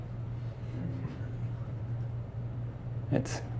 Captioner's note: students laughing softly